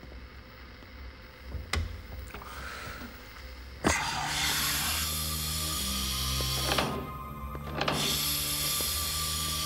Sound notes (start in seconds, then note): 3.8 sighing; 3.8 ominous music